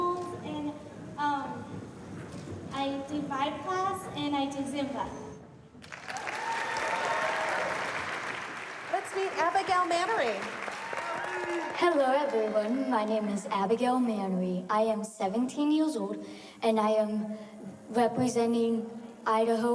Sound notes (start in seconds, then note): 5.8 audience cheer; 10.4 cheering, applause